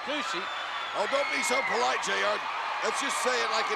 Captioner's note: spectators cheering